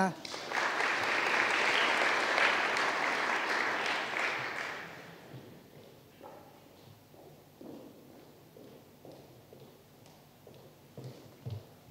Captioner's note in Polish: oklaski